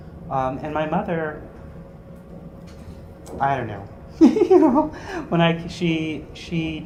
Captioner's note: laugh